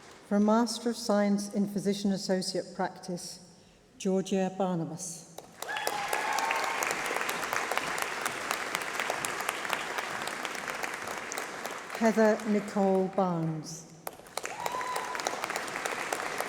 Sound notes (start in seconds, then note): 5.4 applause